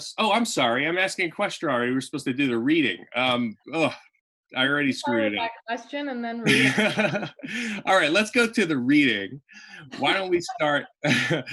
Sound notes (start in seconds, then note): 6.4 laughs; 11.3 chuckles